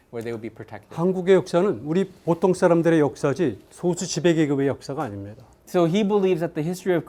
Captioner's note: speaking in Korean